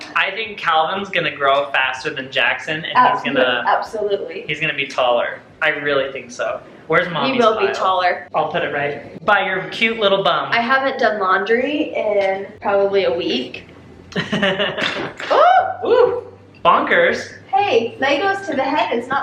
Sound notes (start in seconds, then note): 14.1 laughs